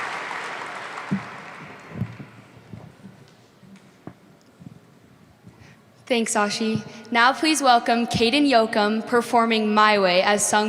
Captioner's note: applause